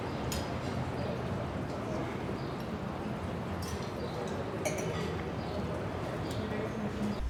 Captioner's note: ambient streetside cafe sounds